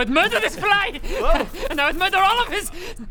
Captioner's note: arrogant buzz